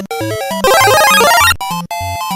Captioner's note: power-up sound effect